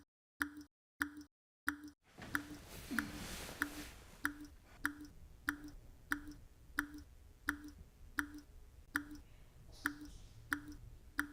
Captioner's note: faucet dripping